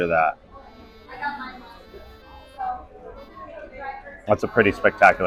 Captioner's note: crowd chattering